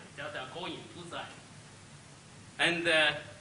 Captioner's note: speaks Chinese